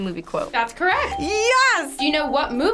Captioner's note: bell rings